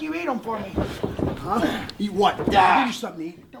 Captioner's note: grunting